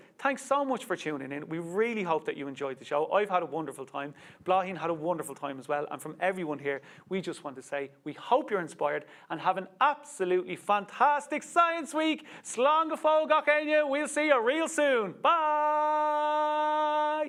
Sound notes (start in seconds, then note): 12.6 speaks Irish